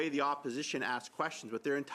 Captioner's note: speaking French